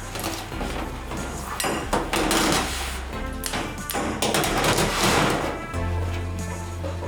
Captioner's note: metallic chops and music